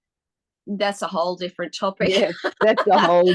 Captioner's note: both ladies laugh